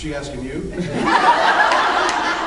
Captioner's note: laughs